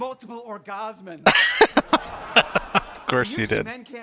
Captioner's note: laughing